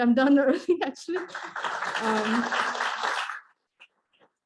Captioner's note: claps